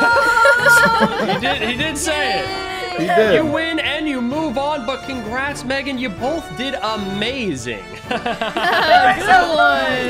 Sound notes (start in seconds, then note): 0.0 group chuckles; 8.0 chuckles